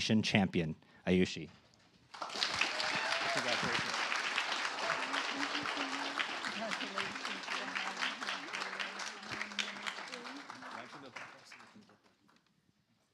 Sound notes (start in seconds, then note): 1.6 applause